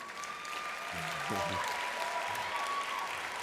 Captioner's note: applause